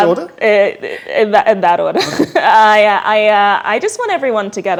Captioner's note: laughs